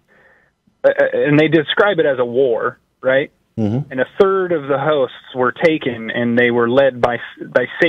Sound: umhum

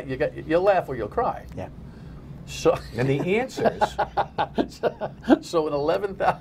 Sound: laughter

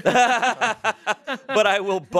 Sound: everyone laughs

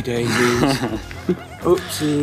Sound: laughs nervously

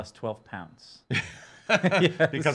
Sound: laughing

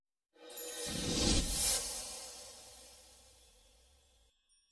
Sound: twinkling sounds

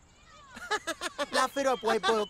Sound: Mr. Chip laughs

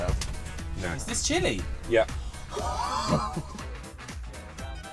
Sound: nervous laughter

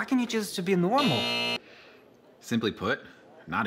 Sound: alarm buzzing

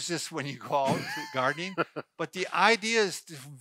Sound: laughs

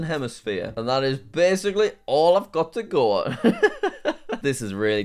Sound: laughs

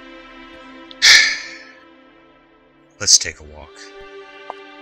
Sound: sighs

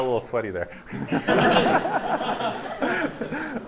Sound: laughter

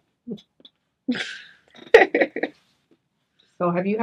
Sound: chuckles

